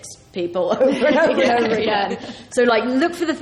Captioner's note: laughs